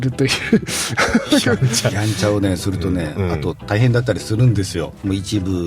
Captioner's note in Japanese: 笑い